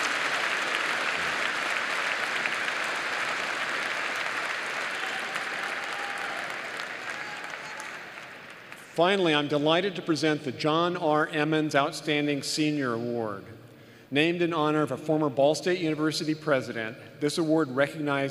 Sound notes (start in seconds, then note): 3.2 applause